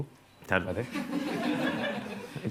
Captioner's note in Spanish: Risas